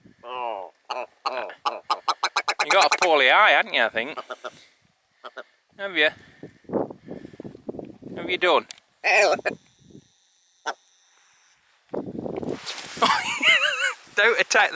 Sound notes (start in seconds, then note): 9.0 laughing